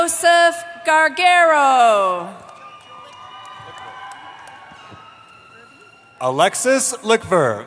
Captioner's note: cheering